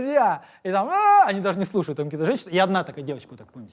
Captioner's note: exclaims